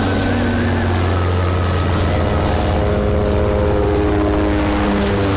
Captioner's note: Helicopter whirring